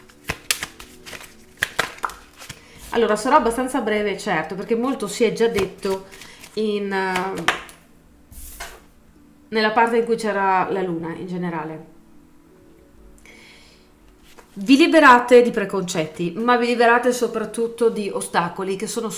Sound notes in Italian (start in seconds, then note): 1.6 Applauso